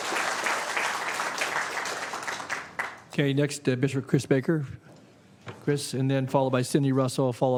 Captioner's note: applause